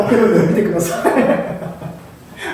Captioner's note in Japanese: 爆笑